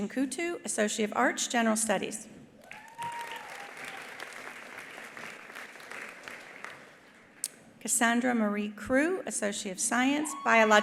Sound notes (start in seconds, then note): 2.6 attendee cheering; 2.6 attendees applauding